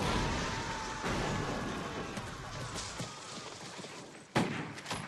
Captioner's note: fighting, Dying screams